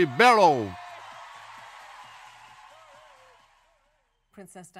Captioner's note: crowd cheers loudly